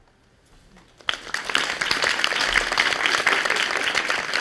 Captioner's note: audience applauding